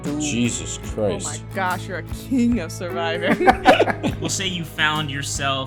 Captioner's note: laughter